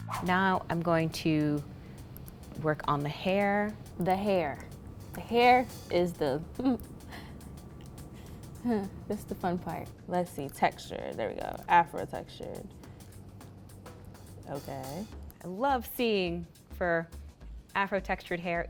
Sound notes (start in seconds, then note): 0.0 bright upbeat music; 6.5 giggles